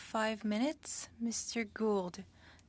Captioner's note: speaking French